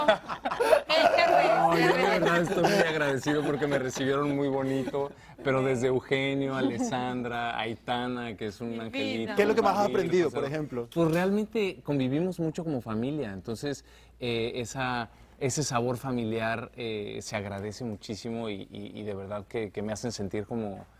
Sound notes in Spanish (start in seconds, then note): 6.0 risas